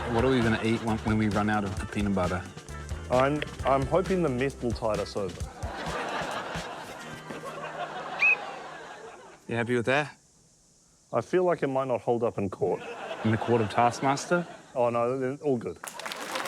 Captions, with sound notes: What are we gonna eat when we run out of peanut butter? I'm― I'm hoping the meth will tide us over. (WHISTLE TRILLS) - You happy with that? I feel like it might not hold up in court. - In the court of Taskmaster? - Oh, no, then all good.